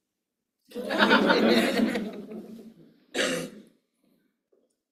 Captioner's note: laughter